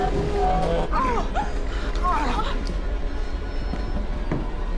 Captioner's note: groaning